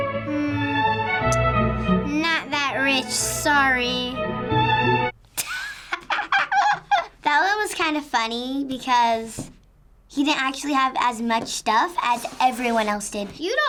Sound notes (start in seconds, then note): 5.4 laughs